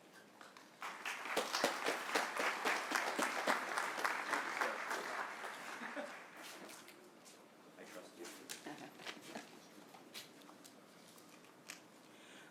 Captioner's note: applause